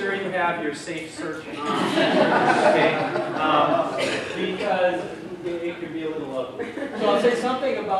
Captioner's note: laughter from audience